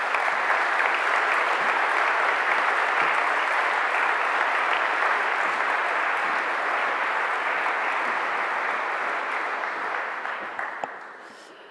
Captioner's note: applause